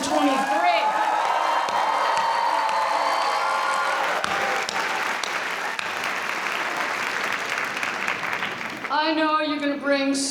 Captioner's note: applause